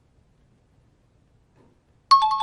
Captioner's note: dinging